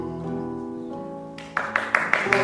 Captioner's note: Holly applauds